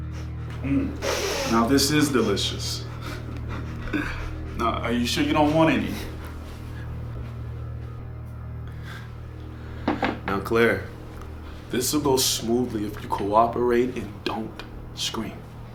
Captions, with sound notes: Mm, now, this is delicious. (laughing) Now, are you sure you don't want any? (laughing) Now, Claire, this will go smoothly if you cooperate and don't scream.